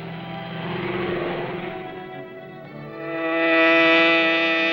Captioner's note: car engine roars